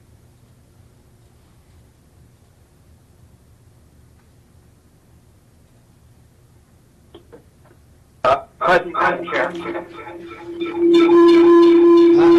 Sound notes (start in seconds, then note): 8.2 radio echoing